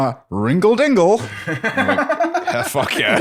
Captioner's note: laughs